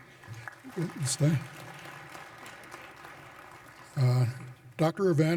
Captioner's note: applause